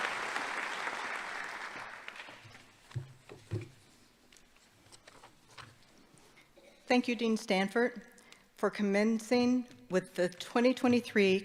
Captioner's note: applause